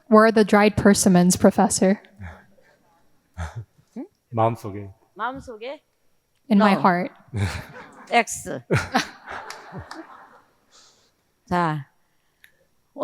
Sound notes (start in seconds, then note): 3.4 both laughing; 4.4 both speaking in foreign language; 7.7 speaking in foreign language; 8.6 audience laughing